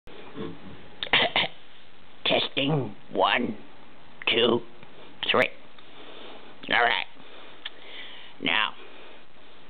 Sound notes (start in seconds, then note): 1.0 cough